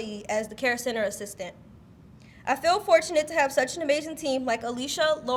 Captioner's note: none